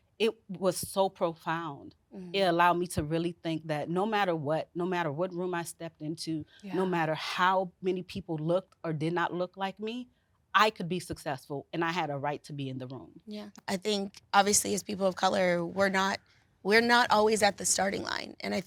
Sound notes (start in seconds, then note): none